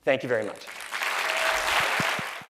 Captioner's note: applause